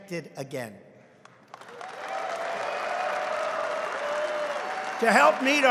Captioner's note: applause